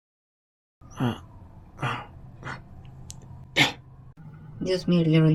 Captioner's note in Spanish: Sonidos de queja